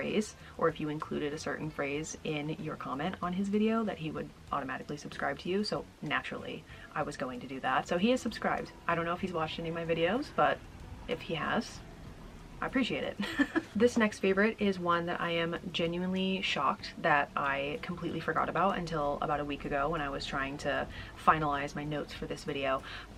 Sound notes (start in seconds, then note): 13.2 laughing